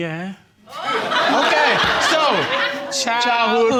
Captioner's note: crowd laughing